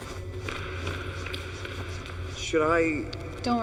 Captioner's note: footsteps thudding